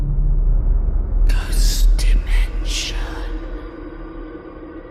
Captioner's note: ghostly Voice